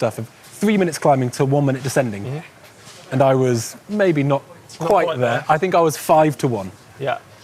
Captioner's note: none